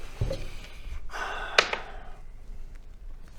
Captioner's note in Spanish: suspiro